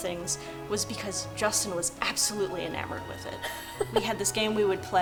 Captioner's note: laughing